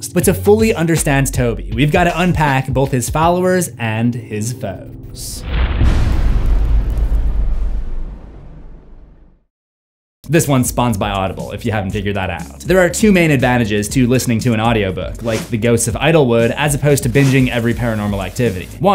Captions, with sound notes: But to fully understand Tobi, we’ve gotta unpack both his followers and his foes. (IMPACT) This one is spons by Audible, if you haven’t figured that out. There are two main advantages to listening to an audiobook, like The Ghosts of Idlewood, as opposed to binging every Paranormal Activity.